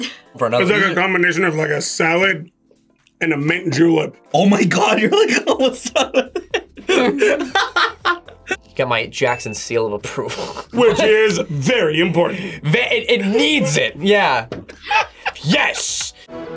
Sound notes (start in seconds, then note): 5.8 laughs; 14.7 laughs